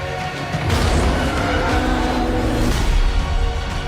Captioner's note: deafening roar